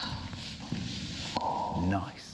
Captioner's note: pop